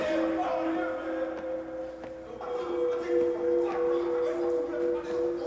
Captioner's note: man speaking foreign language